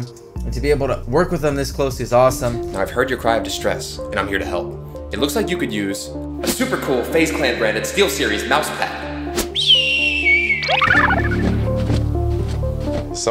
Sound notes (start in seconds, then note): 9.4 whistle; 10.6 wings flapping